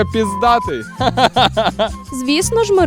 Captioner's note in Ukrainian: сміється